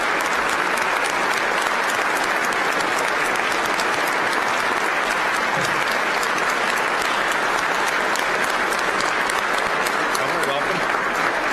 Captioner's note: applause